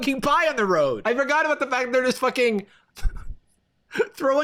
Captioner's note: laughs